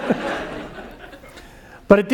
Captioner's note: laugh